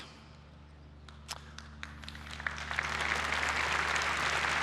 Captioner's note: applause